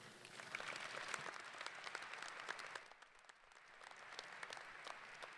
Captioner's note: applause